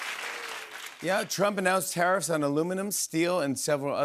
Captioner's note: normal voice